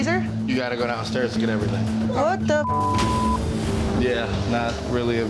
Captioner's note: beep